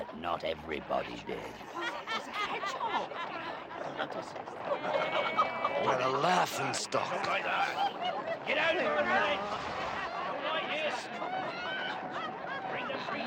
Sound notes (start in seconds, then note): 5.2 people cackling; 8.7 people chattering; 10.4 people sneering